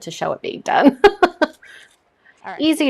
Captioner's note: chuckles